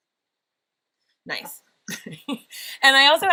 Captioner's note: laughs